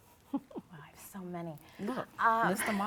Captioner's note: laughs